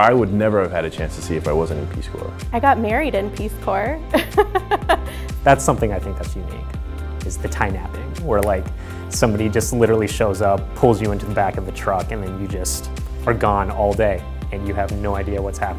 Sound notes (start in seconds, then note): 4.1 laughs